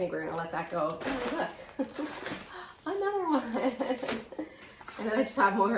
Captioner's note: laughing